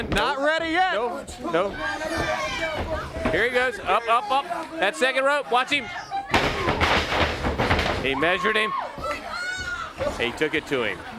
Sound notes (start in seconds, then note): 3.5 crowd chatter